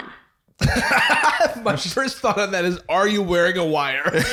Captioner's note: laughs